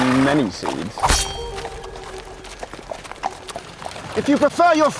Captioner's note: blade slashes